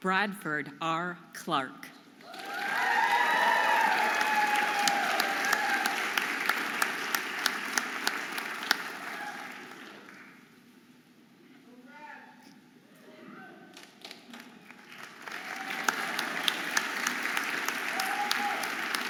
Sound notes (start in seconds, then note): 2.2 audience applauding and cheering